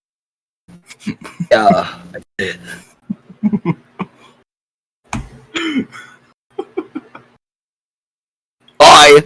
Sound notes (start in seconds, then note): 0.9 giggling; 3.0 does la giggle